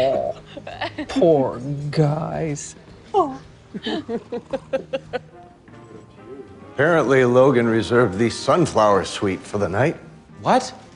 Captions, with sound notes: - Aww, poor guys. [laughter] - Apparently Logan reserved the Sunflower Suite for the night.